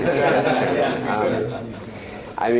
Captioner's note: laughter